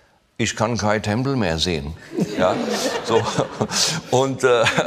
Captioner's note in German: Gelächter